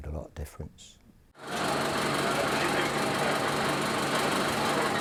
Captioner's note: film reel spins